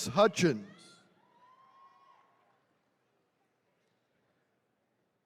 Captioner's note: attendees cheering